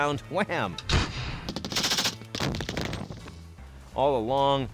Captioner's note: gunshots exploding